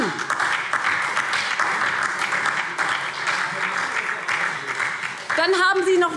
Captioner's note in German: Beifall SPD, Freie Demokraten und DIE LINKE